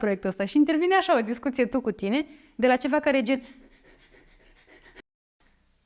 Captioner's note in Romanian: inhalează puternic 😮‍💨